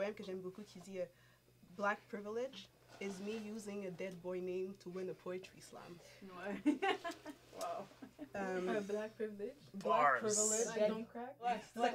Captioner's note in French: rires